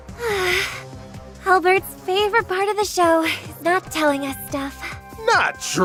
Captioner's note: sigh